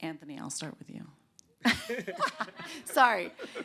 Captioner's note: laughter